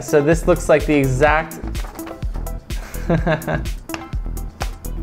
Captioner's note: chuckles